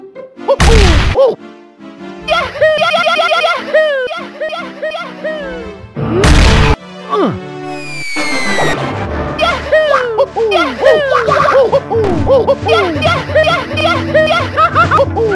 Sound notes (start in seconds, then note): 0.6 explosion